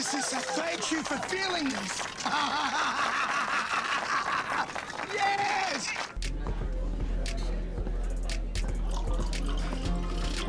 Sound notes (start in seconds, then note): 2.4 laughing; 5.8 overlapping chatter